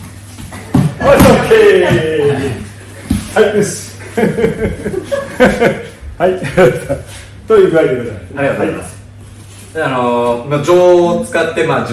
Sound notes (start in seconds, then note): 4.0 laugh